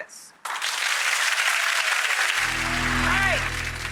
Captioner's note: audience applause